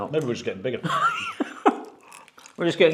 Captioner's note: chuckles